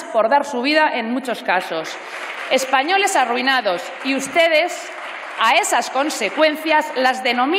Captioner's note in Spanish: Aplausos